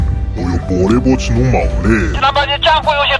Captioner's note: Shanghainese